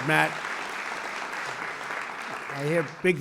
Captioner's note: applause